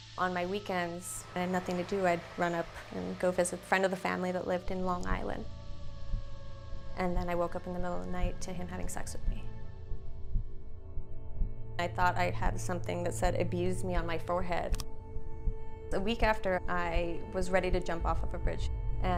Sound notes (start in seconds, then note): 6.0 heart beating